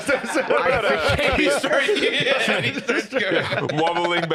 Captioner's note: laughing